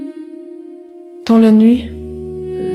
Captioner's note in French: voix aérienne, écho léger